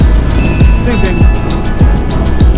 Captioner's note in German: Ding